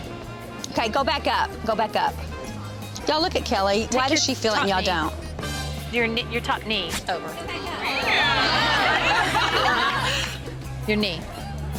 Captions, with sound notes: Okay, go back up, go back up. Don't look at Kelly. Why does she feel- - Top knee. Your top knee. (cheering) Your knee.